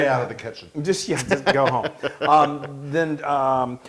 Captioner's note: laugh